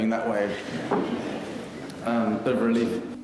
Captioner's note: audience laughing